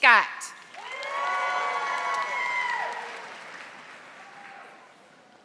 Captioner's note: audience applauding